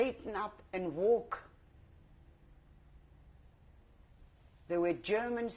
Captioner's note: pauses for 3 seconds